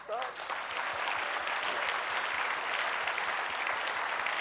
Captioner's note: audience clapping